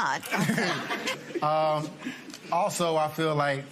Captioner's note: laughter